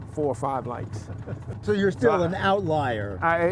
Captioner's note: laughter